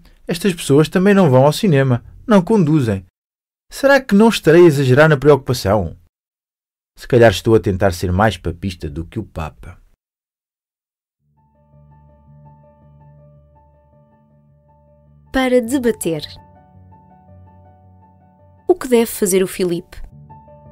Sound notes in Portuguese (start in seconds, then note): 11.7 Piano; 13.1 Voz feminina